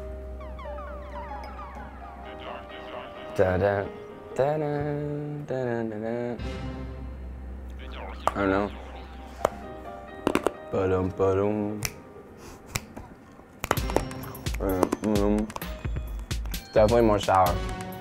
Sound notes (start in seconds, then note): 0.0 soft piano music; 3.6 mimicking suspenseful music; 8.0 crunching; 11.8 snapping; 13.6 upbeat music